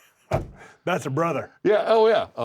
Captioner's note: laugh